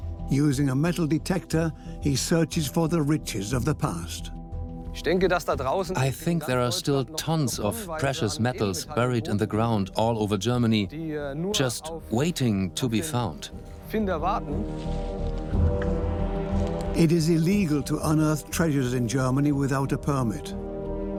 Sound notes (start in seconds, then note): 4.9 in German; 6.2 dubbed in English